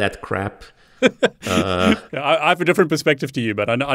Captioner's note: laughs